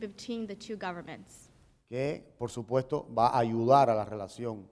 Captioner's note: speaking in Spanish